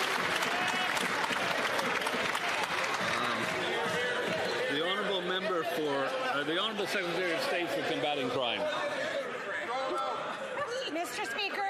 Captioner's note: some Applause